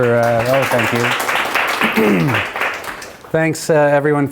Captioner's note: applause